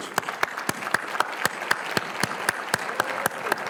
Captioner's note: applause